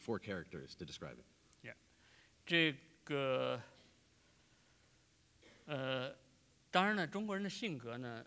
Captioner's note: speaking in Chinese